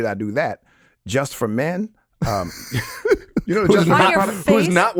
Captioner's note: chuckles